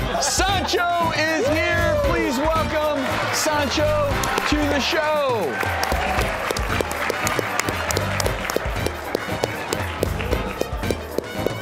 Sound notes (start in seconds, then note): 5.3 clapping; 8.5 upbeat music